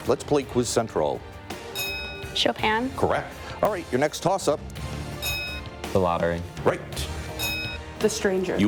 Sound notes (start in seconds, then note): 1.6 bell ringing; 5.1 bell ringing; 7.3 bell ringing